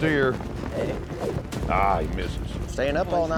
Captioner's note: rope swirling